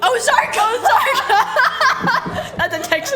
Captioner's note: laughs